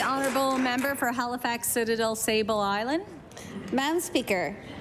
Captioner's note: applause